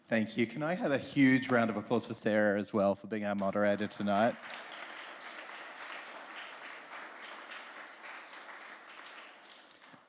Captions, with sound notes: Thank you. Can I have a huge round of applause for Sara, as well, for being our moderator tonight? [APPLAUSE]